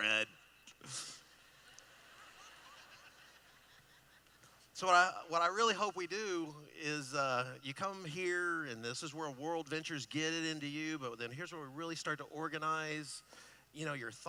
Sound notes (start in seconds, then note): 0.8 laughing